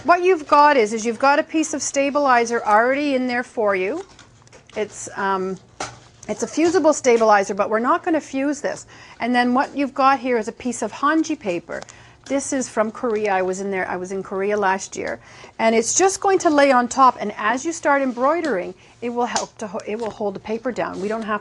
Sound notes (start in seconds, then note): none